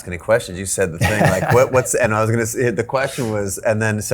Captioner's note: Tom chuckles